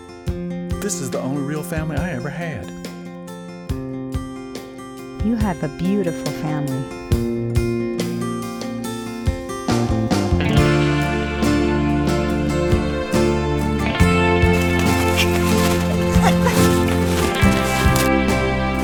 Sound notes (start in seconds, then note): 14.5 giggling